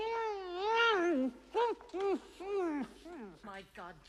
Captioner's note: Приглушенный крик